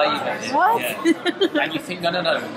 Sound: laughs

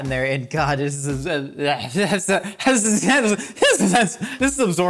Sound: slurring speech

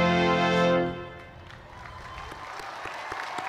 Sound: cheers and applause

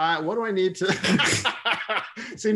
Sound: laughter

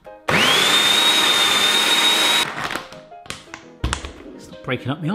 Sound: processor blending

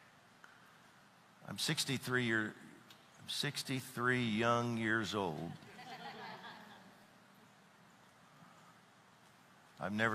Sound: audience laughs

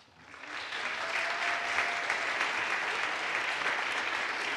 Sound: audience applauds

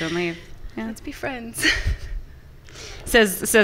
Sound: laughs

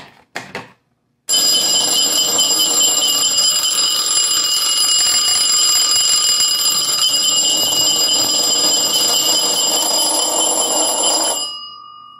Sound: obnoxious ringing

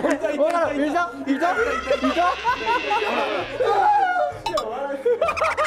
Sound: yelling & laughing

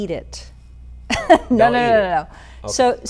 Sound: chuckles

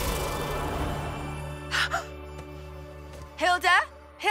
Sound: gasps

